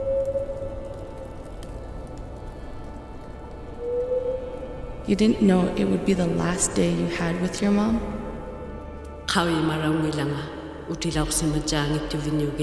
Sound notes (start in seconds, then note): 0.2 wind blowing; 8.3 grandmother speaking in Inuktitut